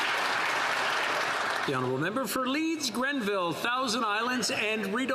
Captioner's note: applause